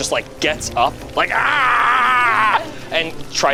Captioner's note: yells